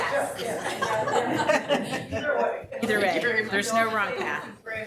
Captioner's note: people laughing